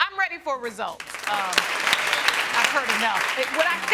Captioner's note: audience applauding